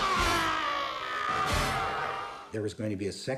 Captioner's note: screaming